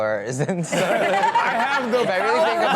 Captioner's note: audience laughing